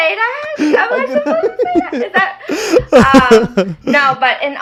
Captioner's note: people laughing